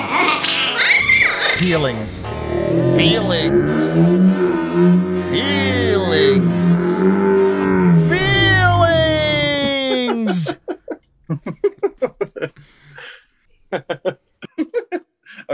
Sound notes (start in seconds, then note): 0.0 monster 2 with high vocalization; 4.7 monster 1 with low vocalization; 11.2 laughter